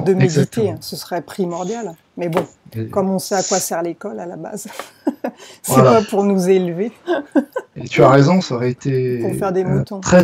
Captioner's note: laughs